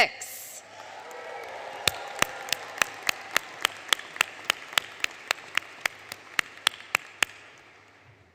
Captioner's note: applause